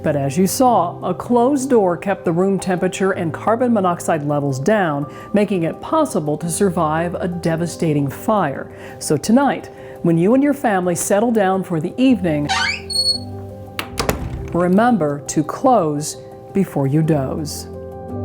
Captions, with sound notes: But as you saw, a closed door kept the room temperature and carbon monoxide levels down making it possible to survive a devastating fire. So tonight, when you and your family settle down for the evening, (door creaks and closes) remember to close before you doze.